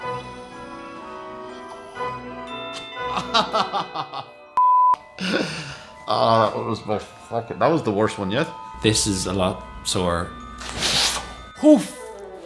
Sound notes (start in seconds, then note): 2.8 laughing